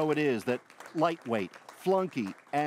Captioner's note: applause